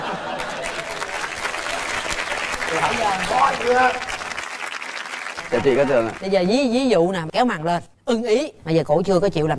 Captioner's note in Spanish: Aplaudir